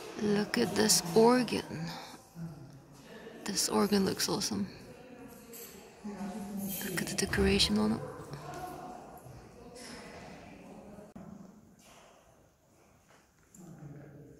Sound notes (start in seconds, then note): none